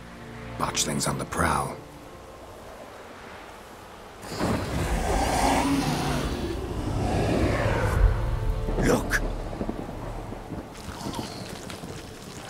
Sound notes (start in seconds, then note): 4.2 snarling, hissing